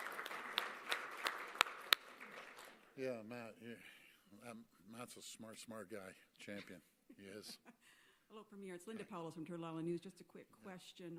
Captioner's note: applause